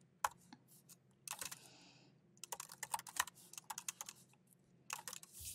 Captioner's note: keyboard clacking continues